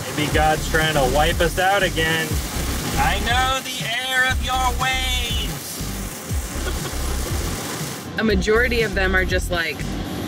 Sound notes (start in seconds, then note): 6.5 laughs